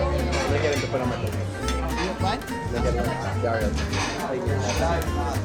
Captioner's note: restaurant patrons talking